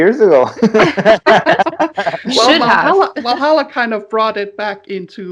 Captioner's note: laughter